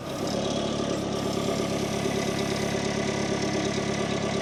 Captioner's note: machinery rumbles